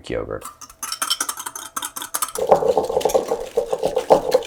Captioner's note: mixture whisking